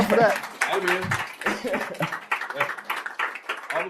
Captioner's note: applause